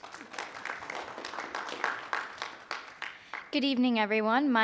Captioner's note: group applauds